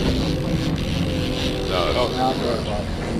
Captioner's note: reel cranking